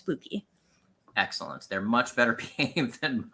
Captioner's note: laughs